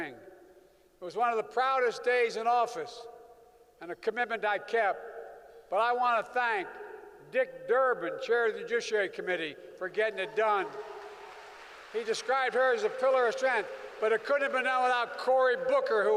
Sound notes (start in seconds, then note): 10.1 applause